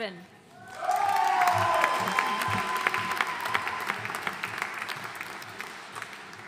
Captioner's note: audience cheering and applauding